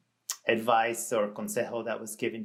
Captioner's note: speaks in Spanish